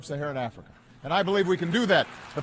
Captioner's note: applause